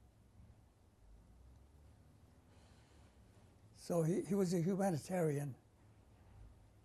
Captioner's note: pauses for 3 seconds